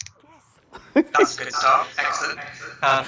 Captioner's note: laughs